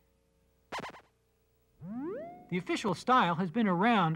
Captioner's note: silence